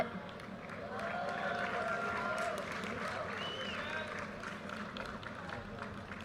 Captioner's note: audience cheers and applause